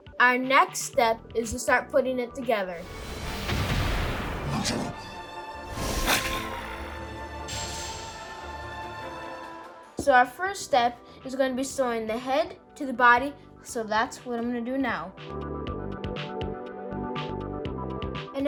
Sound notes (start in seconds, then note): 5.8 Charizard grumbles; 6.0 tense music; 15.7 upbeat music